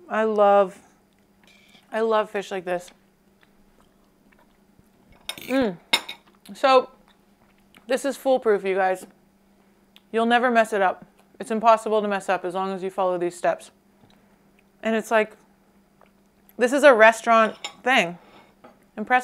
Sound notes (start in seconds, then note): 5.2 silverware clinking